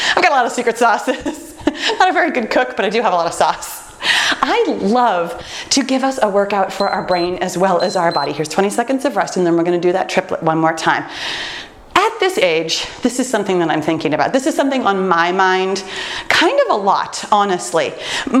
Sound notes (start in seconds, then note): 6.7 timer beeps